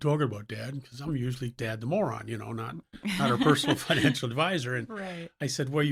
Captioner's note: laughs